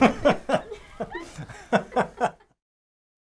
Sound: laughing

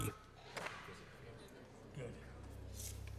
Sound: whispering

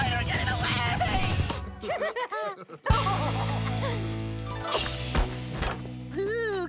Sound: laughing

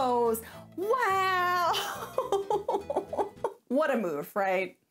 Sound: laughing

